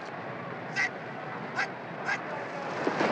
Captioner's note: referee shouting